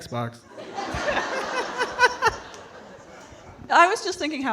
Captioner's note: all laughing